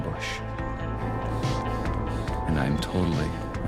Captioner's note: heavy breathing